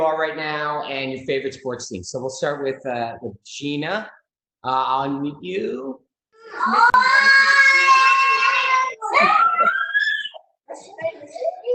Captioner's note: yelling in background